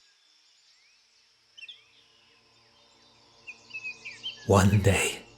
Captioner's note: birds chirping, low music